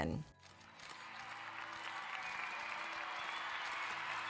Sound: crowd cheering

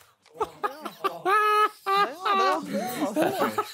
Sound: Ethan laughing

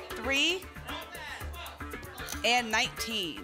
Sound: audience shouting numbers

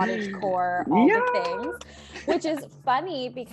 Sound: clapping and laughing

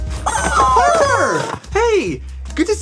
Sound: rubber chickens squeaks

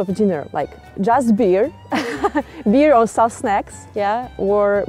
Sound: laughs

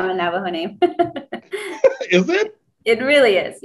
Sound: laughs

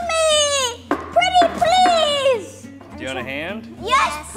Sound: pounding

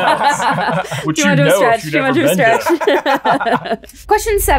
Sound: group laughing; indistinct chatting

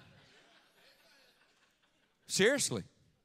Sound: audience laughing

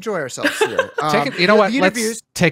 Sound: laughs

